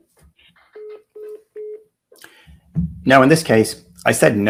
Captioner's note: phone beeps